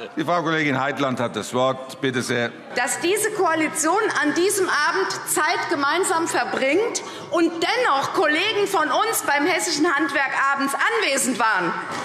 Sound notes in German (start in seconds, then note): none